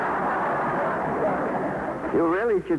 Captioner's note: laughter